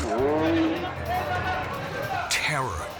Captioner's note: speaking in foreign language